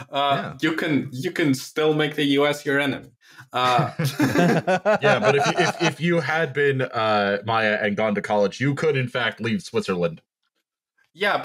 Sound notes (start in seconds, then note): 3.6 laughter